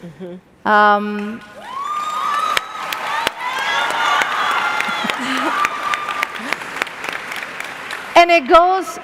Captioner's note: applause